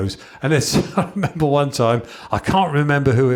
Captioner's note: chuckles